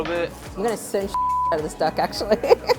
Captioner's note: beep